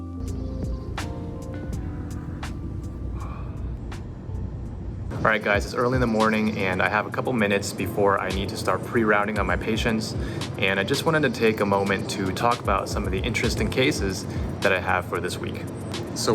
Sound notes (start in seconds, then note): 2.8 exhales